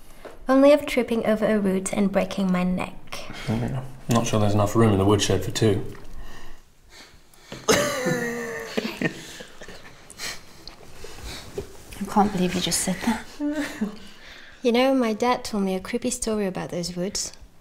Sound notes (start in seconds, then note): 7.6 laughing